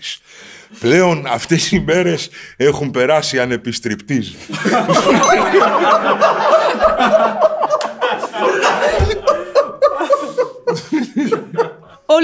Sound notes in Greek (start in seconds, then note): 4.4 γέλια